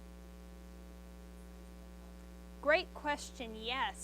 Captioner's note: student speaks faintly